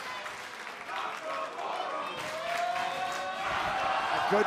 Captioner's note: fans chanting